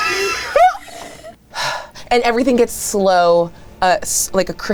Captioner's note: sighs; wheezes